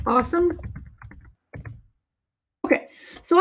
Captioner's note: keyboard clicking